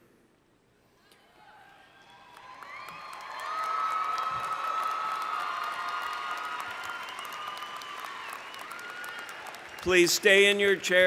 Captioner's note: cheering